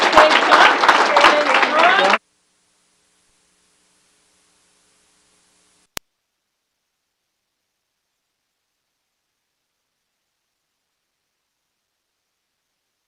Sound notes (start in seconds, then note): 2.2 applause